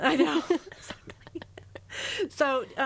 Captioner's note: laughing